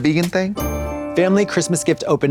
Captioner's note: bright chime